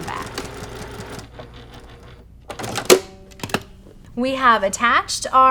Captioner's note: sewing machine churning